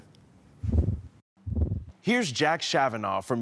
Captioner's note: whoosh